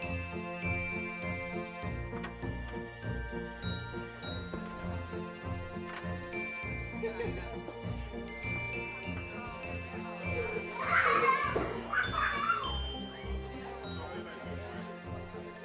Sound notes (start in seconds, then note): 4.4 guests chattering; 10.2 children laughing